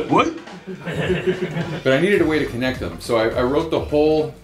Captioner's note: laughter